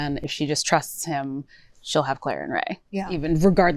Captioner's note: none